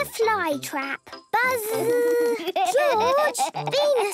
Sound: George laughing

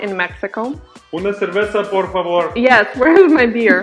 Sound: man speaks foreign language

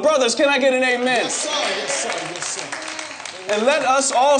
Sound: congregation murmuring

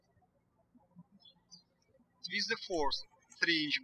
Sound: birds chirping

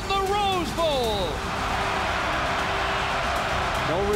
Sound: crowd cheers

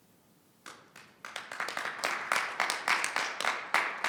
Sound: audience clapping

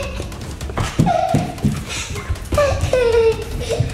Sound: laughs

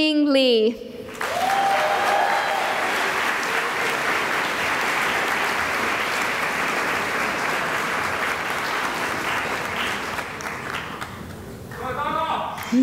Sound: cheering and applause

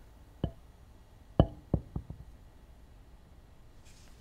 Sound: bat hits floor

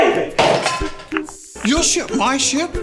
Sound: sound of plate breaking

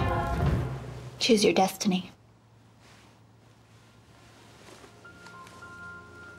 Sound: none

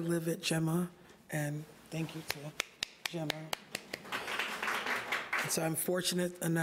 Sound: audience applauding

